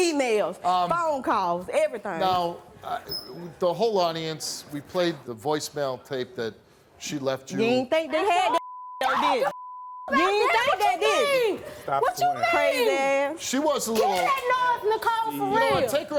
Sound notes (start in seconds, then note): 8.5 beep